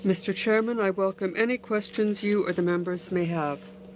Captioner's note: speaking French